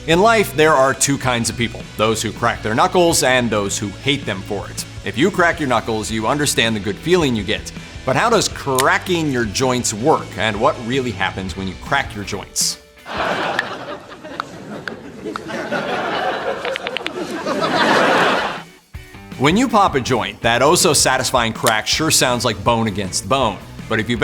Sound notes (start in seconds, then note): 13.9 knuckles cracking